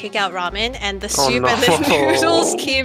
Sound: chuckles

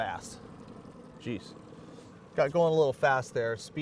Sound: boat engine idling

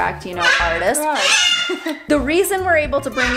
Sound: chuckles softly

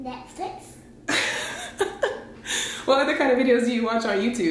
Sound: laughs

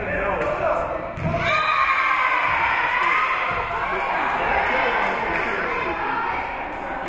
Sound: spectators shouting encouragements; spectators cheering; whistle being blown

